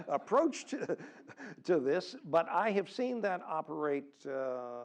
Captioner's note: laugh